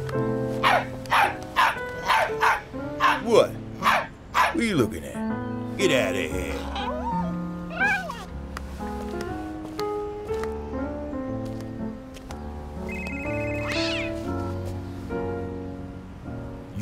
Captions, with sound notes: [dog barks] What? What are you looking at? Get outta here. [dog whimpers] [phone rings] [cat screeches]